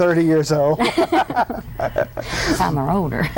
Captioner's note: everyone laughs